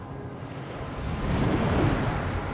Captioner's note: whoosh